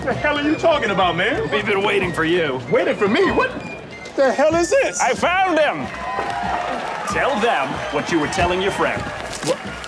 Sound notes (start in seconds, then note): 5.1 crowd cheering